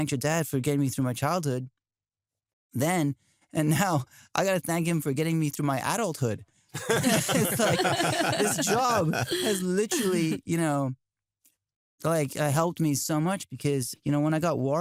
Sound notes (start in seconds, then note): 6.7 laughter